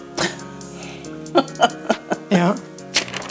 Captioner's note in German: Lachen